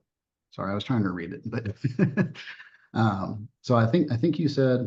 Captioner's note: laughs